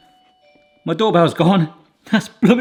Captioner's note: doorbell rings